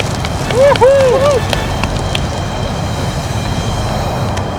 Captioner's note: multi-claps